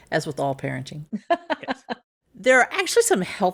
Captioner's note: laughs